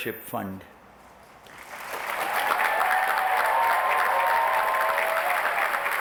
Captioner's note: applause, cheering